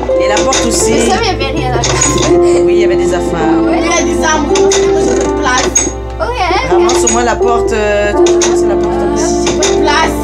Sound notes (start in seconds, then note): 1.0 laughs